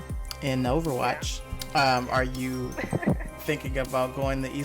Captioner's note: laughs